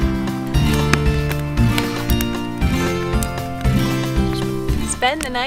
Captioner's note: adventurous instrumental music; fire crackling